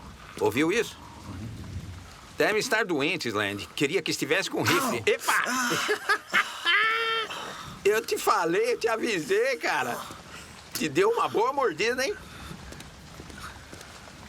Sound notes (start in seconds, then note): 4.5 yells; 4.5 laughs